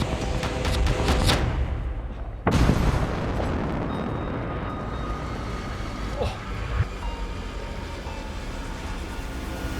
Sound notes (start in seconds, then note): 2.4 explosion